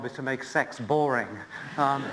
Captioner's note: laughter